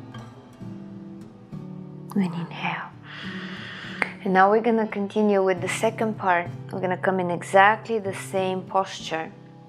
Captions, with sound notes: And inhale. (inhales) And now we're gonna continue with the second part. I'm gonna come in exactly the same posture.